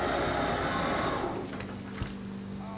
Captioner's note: thumping